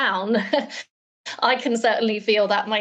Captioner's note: chuckles